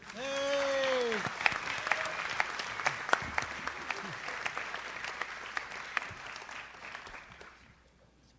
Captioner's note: audience applauds